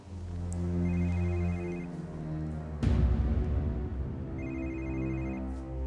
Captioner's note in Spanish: suena un celular